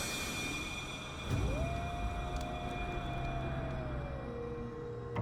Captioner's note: coyote howling; tense music